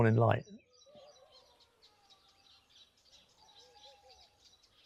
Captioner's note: birds chirping